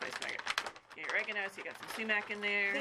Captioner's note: paper rustling